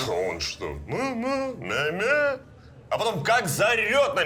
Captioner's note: muttering